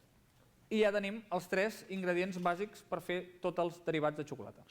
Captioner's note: non-english speech